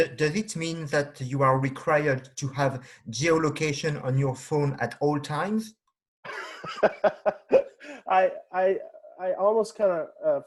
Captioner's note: laughing